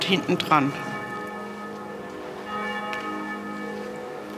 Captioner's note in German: Kirchenglocken